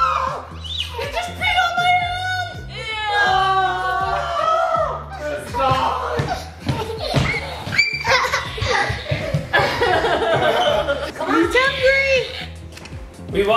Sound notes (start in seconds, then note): 0.0 screaming; 3.1 screaming; 6.6 laughing